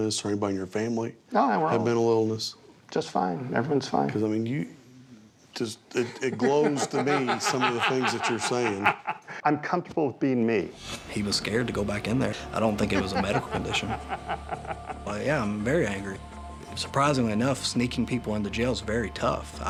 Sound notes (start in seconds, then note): 9.0 laughs; 12.6 laughter